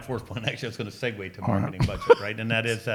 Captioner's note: laughs